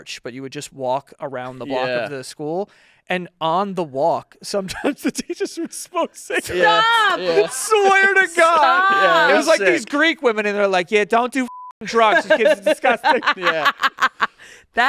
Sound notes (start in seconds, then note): 11.4 beep